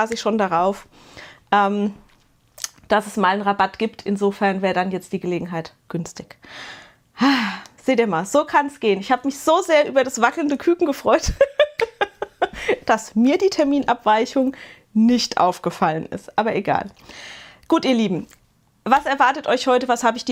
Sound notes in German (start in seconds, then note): 6.4 japst; 7.2 seufzt; 11.2 gelächter